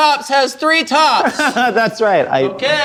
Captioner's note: laughs